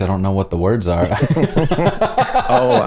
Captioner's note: laughter